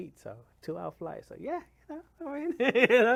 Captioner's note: laughs